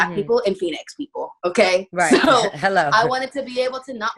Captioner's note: laughing